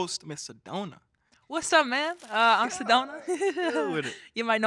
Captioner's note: laughing